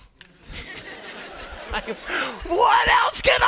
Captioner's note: students laughing